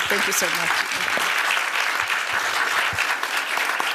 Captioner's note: audience claps